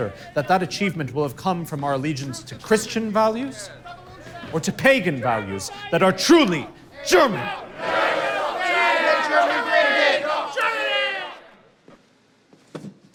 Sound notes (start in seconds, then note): 6.8 group chanting